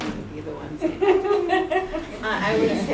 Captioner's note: laughter